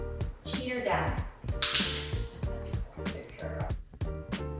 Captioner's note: clicker clicking